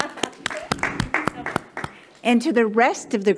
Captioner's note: attendees applauding